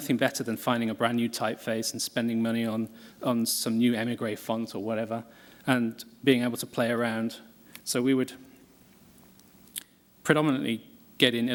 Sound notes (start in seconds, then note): none